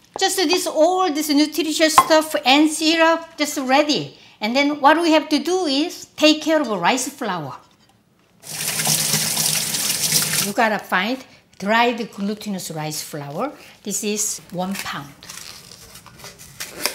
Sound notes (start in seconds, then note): 8.4 water running